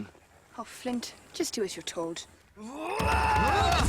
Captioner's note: yelling; dramatic music